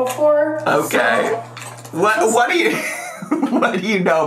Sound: laughs

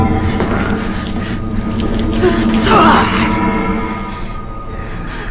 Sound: grunting; chain rattling

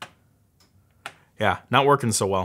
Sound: tapping

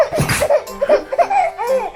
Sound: sneezing

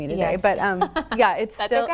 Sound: laughs

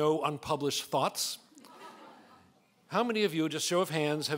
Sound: laughing

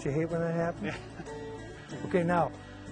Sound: laughs

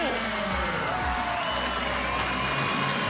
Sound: cheering

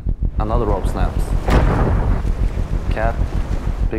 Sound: loud bang

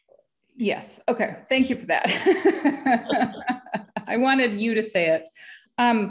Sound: laughs

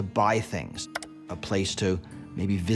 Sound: mouse clicking

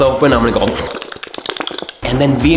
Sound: makes mouth noises

